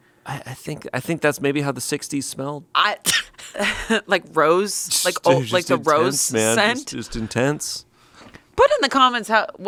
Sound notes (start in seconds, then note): 3.1 laughs